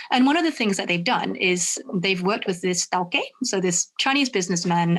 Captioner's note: speaks in foreign language